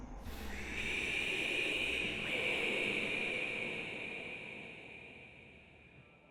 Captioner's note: creepy whispers